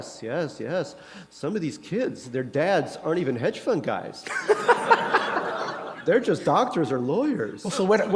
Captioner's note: laughter